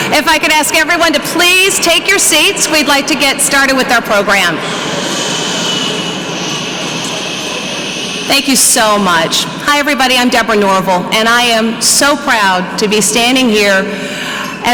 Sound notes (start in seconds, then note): 4.1 audience members shushing